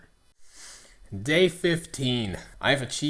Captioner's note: inhales